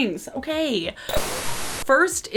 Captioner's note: TV statics